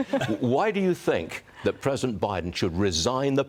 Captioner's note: laughter